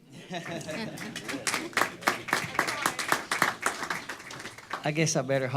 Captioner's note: applause